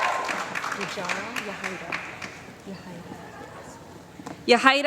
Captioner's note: applause